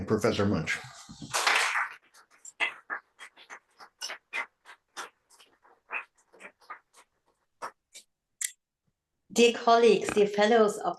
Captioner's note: applause